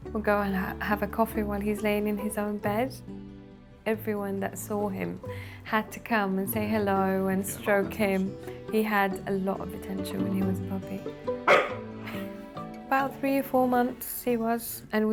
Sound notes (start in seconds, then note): 11.4 Moon barks